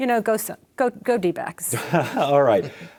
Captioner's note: chuckles